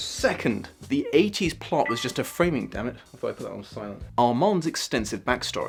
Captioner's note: notification ping